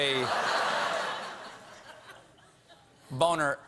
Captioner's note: laughter